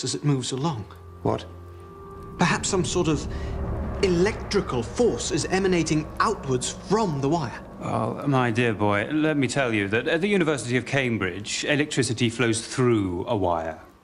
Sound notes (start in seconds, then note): none